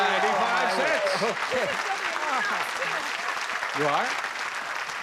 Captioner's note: applause